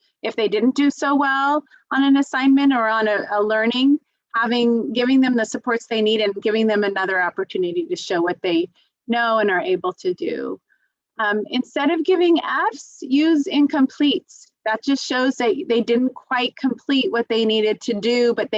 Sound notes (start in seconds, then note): none